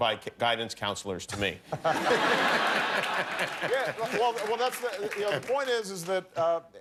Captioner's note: laughter